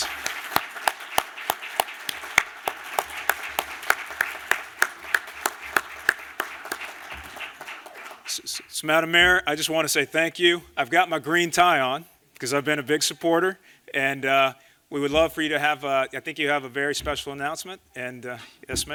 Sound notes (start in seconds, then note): 3.8 applause